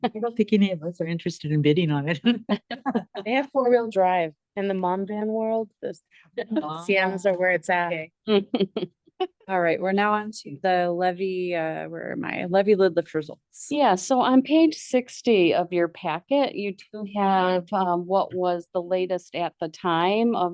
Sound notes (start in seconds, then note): 8.4 board members laugh